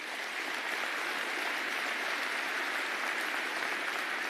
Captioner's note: applause